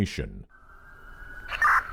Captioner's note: siren blaring; police radio beeping